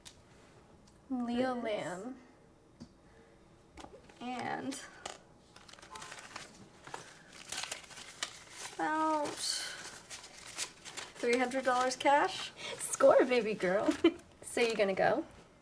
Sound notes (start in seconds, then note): 6.6 money rustles; 13.9 Abby giggles